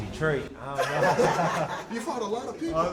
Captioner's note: laughter